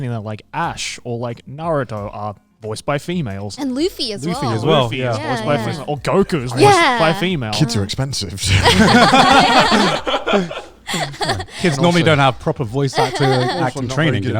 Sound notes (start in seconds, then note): 8.4 all laughing